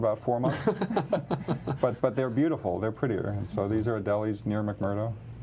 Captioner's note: laughter